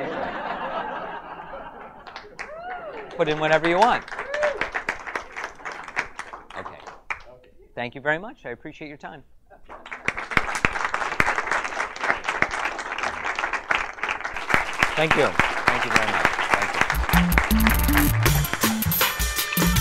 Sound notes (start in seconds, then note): 0.0 audience laughs; 4.0 clapping; 9.6 audience applauds; 16.7 upbeat music